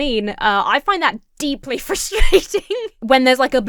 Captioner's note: laughs